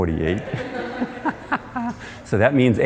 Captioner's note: laughter